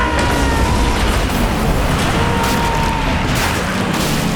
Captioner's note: Boyd screaming; metal clanging